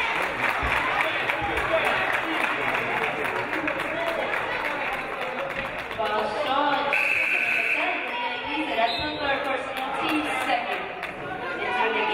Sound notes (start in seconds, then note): 0.0 audience applauding; 6.9 game buzzer buzzes